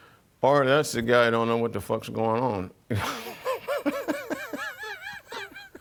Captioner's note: laughs